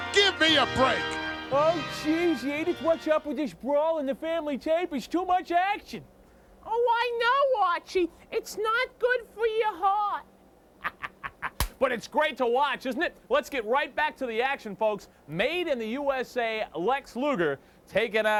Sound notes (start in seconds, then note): 10.8 laughing